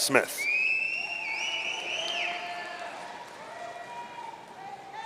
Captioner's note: audience cheering